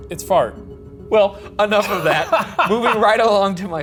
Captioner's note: laughs